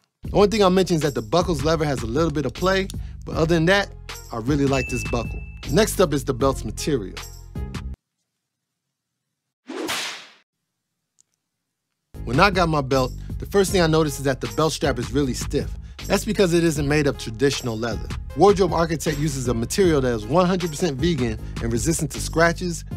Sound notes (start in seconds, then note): 9.7 whipcrack